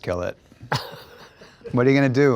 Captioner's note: Nathan chuckles